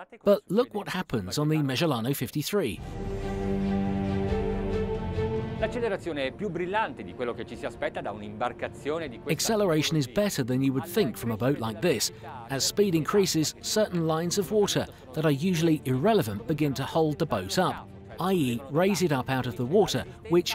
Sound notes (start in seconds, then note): 3.3 dramatic music; 6.8 speaking in foreign language